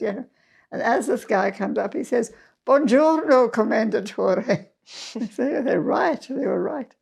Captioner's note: in Italian: Goodmorning, Commendatore!